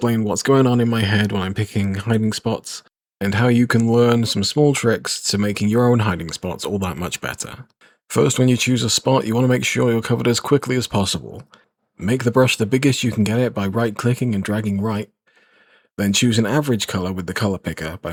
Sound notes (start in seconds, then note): 15.2 breathes in